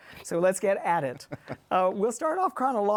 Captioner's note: laughs